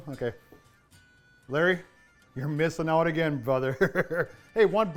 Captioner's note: laughs